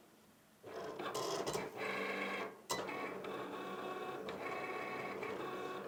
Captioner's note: Cricut buzzes and beeps